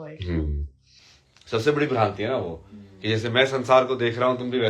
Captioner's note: गला साफ़ करने की आवाज़